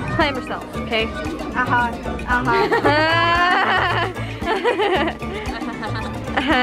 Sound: laughing; fake laughing

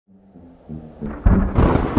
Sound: lighting Strike

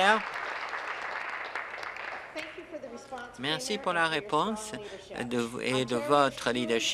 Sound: applause

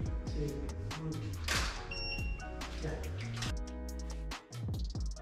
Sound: camera shutter clicks

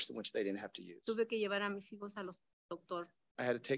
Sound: speaks in Spanish

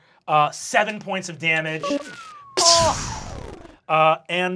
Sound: whistles

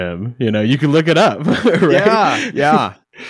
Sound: laughing

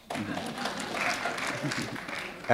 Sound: applause

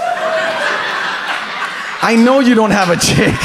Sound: audience laughs

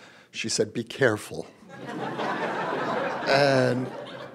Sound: laughter

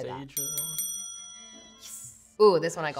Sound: bell rings

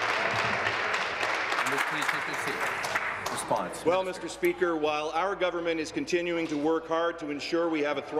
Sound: applause

